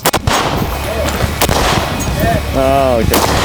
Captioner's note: gun bangs